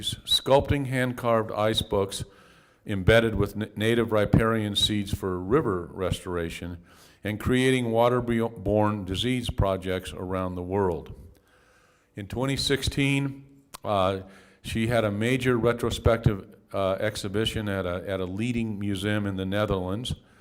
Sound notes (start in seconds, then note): none